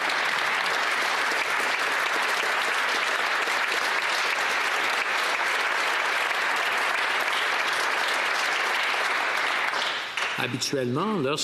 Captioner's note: applause